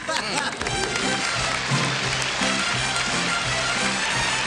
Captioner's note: applause